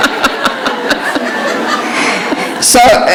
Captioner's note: laughter